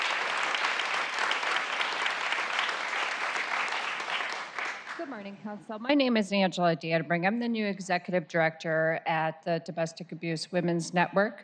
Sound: applause

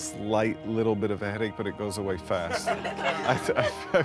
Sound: laughter

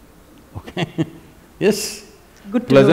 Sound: laughs

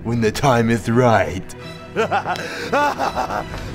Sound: laughing maniacally

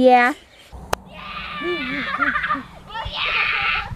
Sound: laughs

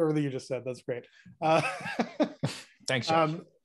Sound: laughing

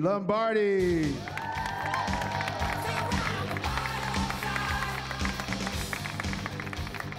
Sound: rock music; cheering

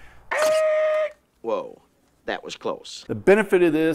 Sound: screeching

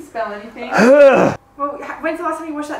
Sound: gags

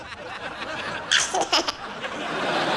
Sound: giggling

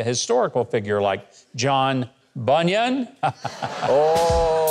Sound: laughs

